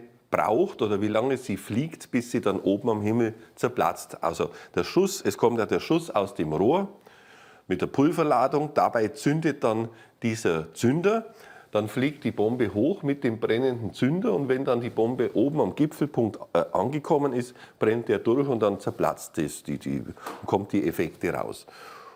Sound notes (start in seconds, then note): none